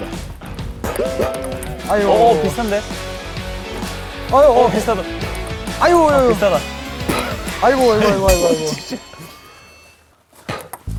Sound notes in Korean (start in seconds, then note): 6.8 후우